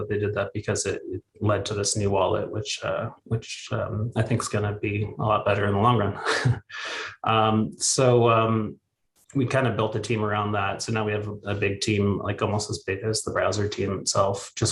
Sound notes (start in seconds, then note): 6.0 chuckles